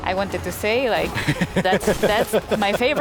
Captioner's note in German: lacht